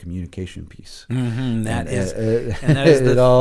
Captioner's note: both laugh